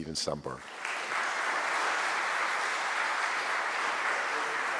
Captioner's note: audience applauding